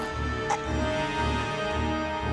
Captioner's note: gagging